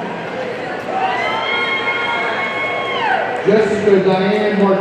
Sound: audience cheering

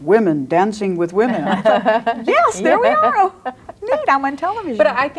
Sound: laughs

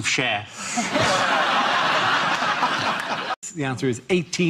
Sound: audience laughs

